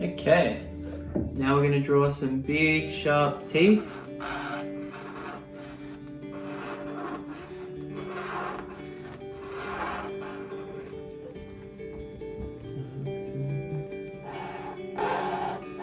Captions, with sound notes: Okay, now we're gonna draw some big sharp teeth. (squeaking)